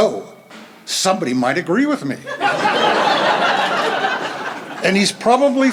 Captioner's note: laughter